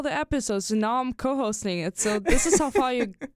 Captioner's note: chuckles